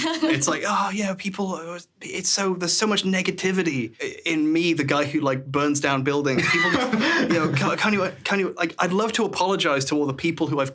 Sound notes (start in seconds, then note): 0.0 laughs; 6.3 laughing